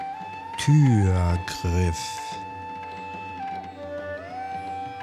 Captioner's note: german